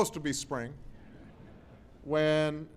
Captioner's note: laughter